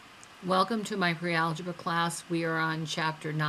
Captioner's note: voiceover